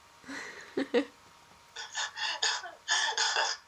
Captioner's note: laugh